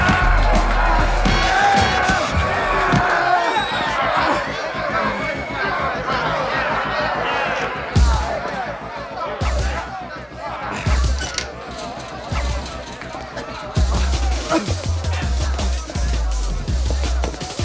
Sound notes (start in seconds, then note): 0.3 K.T. screaming; 5.9 crowd chattering